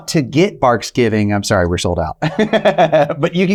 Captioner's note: laughing